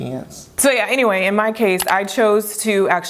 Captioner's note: mouse clicks